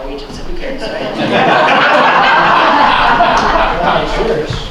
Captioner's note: laughter